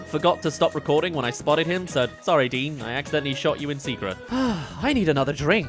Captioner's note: sigh